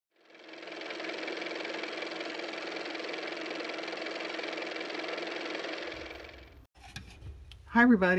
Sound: car motor

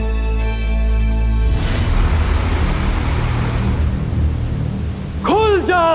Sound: water gushing

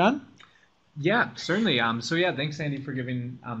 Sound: voiceover

